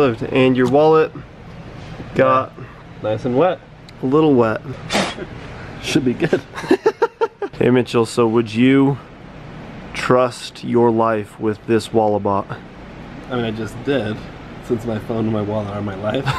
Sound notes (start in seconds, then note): 4.8 blowing; 6.3 laughing